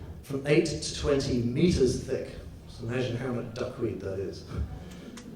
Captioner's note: none